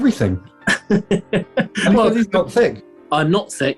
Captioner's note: laughing